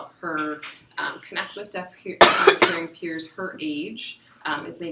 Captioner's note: cough